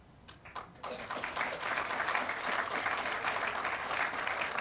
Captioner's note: audience applauding